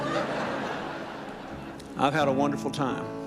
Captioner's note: audience laughs